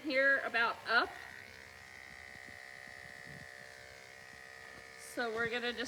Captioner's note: clippers buzzing